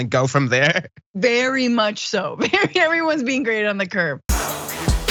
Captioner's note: laugh